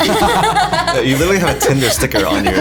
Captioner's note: all laughs